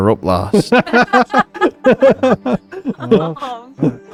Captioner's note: laughing